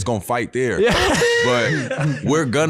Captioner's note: laughing